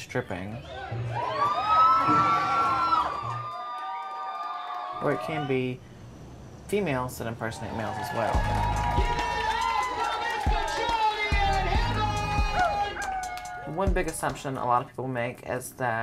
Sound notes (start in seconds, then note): 1.5 cheering; 8.2 music playing in background